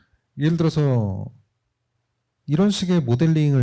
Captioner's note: speaking korean